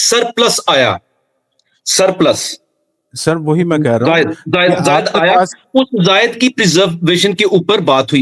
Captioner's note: laughter